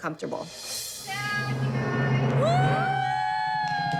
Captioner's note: cheering